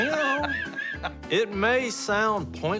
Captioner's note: laughs